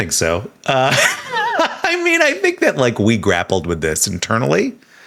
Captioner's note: chuckles